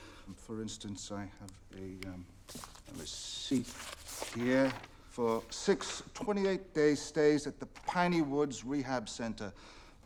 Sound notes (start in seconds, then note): none